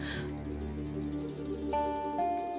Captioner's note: sighs